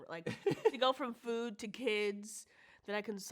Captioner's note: laughs